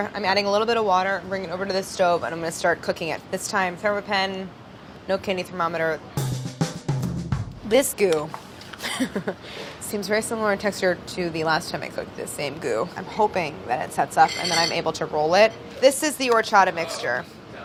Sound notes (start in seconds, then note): 8.8 laughs